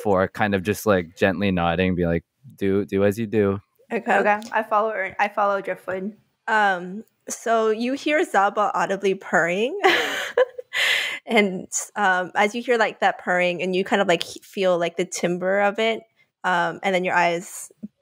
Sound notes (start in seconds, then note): 10.6 laughs